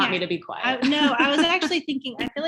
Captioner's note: laughs